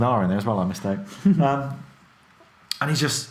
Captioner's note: laughs